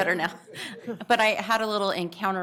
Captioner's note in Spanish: risas